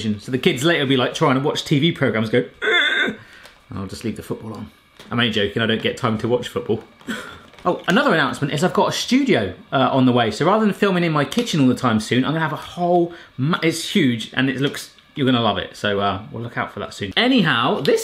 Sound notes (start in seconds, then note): 2.6 imitating child whining; 7.0 sobbing